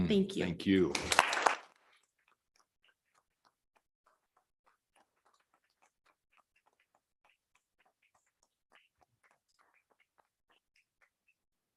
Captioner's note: audience clapping